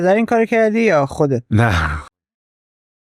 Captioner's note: laughs